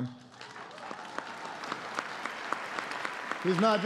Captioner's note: applause